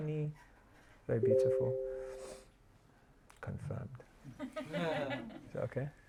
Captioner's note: laughter